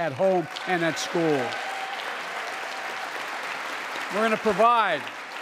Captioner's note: applause